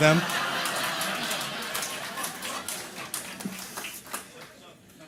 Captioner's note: audience laughter